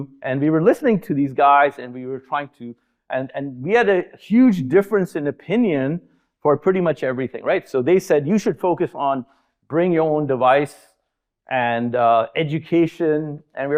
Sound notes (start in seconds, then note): none